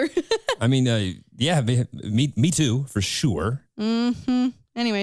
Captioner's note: sarcastically